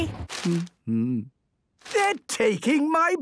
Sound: humming

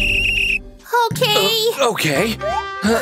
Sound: whistles; groans; groans loudly

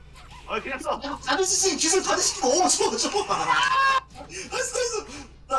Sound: speaking Korean

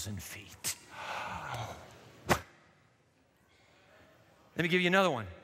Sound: gasps

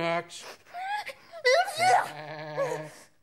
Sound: sneezes

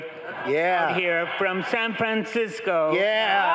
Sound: group laughing

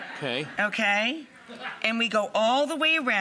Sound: audience laughs

